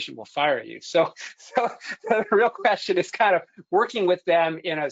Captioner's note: chuckles